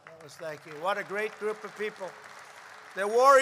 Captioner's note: applause